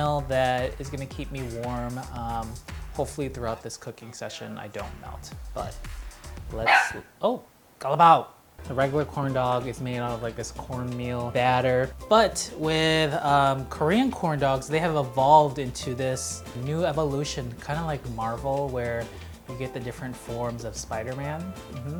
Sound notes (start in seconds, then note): 6.6 dog barks